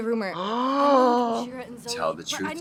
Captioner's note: drag queens gasping